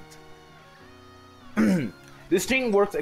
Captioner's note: hrm